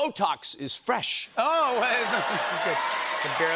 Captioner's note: cheers and applause